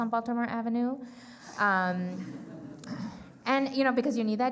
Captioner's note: crowd chuckling